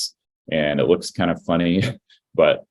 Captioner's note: laughs